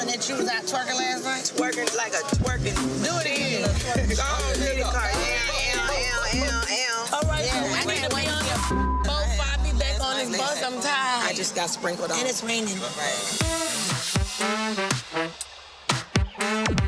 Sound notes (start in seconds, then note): 8.2 beep; 13.4 upbeat funky music